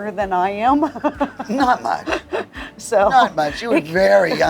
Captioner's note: laughs